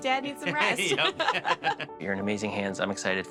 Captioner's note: laughs